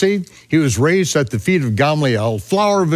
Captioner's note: speaks in foreign language